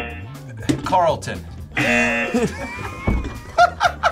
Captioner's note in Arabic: الجميع يضحك